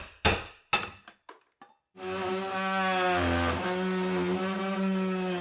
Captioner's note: machine whirring